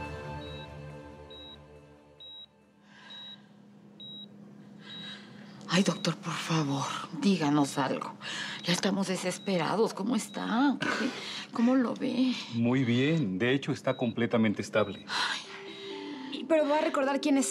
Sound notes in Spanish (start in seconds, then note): 0.6 Sonido de un monitor